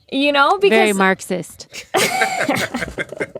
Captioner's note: laughter